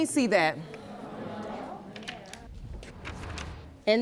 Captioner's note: audience moaning